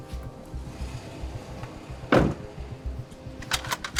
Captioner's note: engine revving; door thuds; rifle clacking